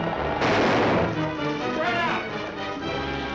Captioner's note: gun firing; dramatic music